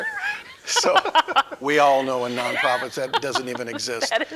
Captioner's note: laughing